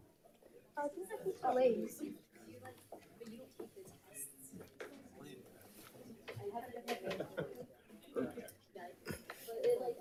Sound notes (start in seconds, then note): 2.4 people continue chattering